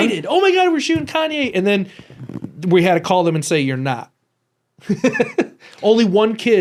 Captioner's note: laughs